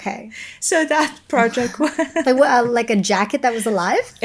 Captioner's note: laughing